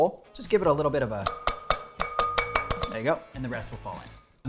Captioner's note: tapping